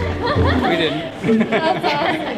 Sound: laughing

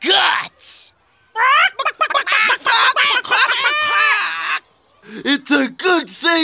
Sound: clucking

